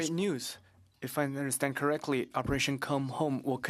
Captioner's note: speaking French